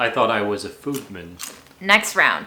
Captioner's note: corn snacks crunching